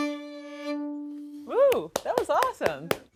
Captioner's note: claps